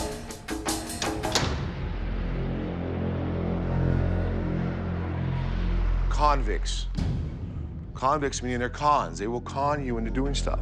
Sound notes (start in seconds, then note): 0.9 door clicks